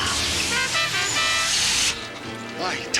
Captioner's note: horn honks